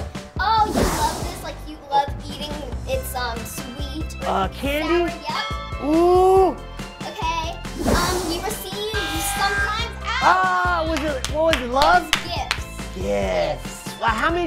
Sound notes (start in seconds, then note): 8.9 buzzer